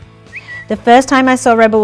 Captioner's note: lips whistle